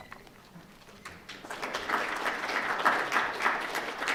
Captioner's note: applause